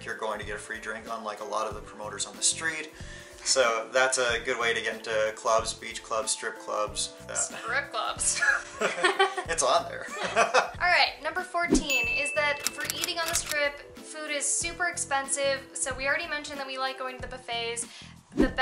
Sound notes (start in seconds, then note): 8.5 both laughs